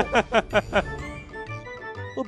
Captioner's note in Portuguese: risos